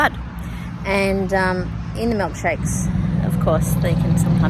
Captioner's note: very loud truck goes past